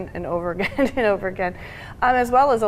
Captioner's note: chuckling